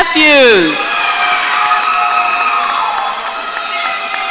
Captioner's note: audience cheering